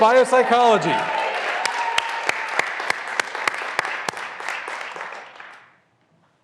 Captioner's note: graduands cheering and applauding